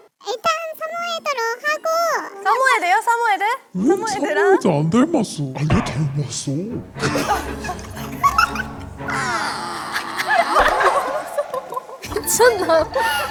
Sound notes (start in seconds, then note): 6.9 deep voice